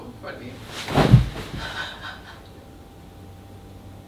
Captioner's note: laughter